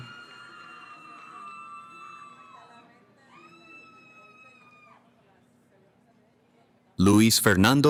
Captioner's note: cheering